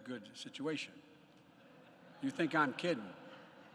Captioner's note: laughter